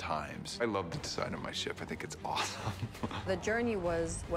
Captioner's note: laughs